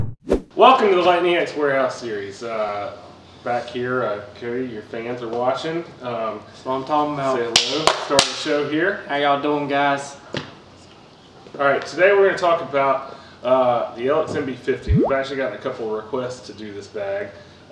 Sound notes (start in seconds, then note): 10.4 whispering